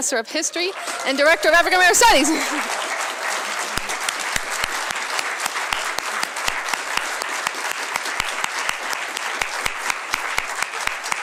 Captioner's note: laughs; applause